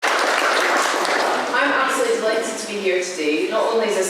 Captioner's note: applause